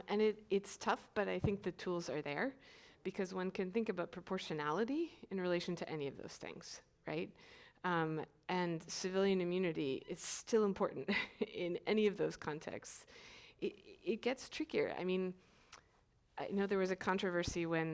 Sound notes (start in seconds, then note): 10.8 chuckles